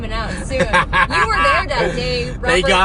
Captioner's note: laughs